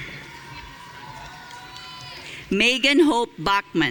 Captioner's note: audience cheering